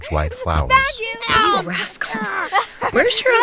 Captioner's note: sounds of children playing